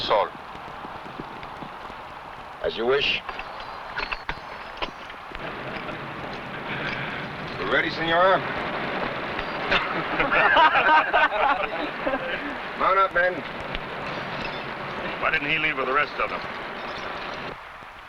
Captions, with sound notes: - As you wish. You ready, Señora? (men laughing) Run up, men. - Why didn't he leave with the rest of them?